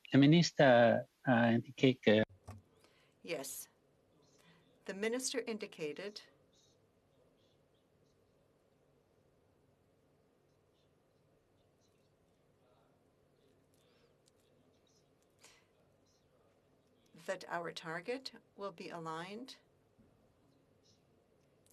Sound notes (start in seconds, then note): 4.2 speaking French